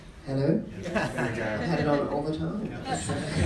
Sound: laugh

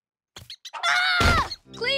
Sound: screaming

